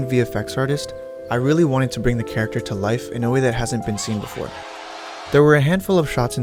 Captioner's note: cheering sounds